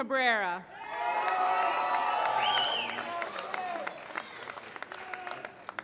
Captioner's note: applause